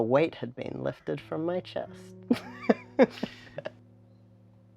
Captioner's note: laughs